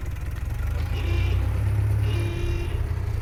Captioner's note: car horn honking